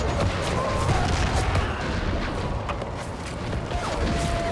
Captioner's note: soldiers bellowing; guns firing